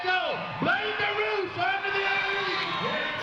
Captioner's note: announcer calling race, crowd cheering